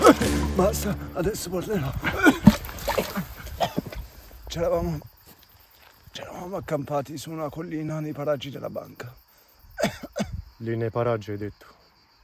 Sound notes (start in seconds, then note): 1.8 coughs; 9.7 coughs